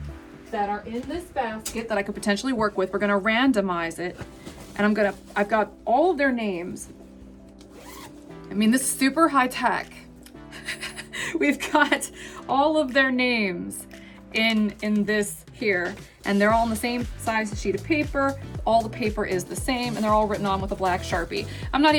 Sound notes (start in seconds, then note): 10.6 laughs